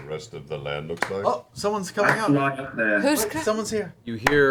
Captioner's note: clapping